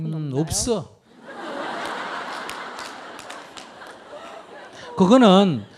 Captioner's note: audience Laughter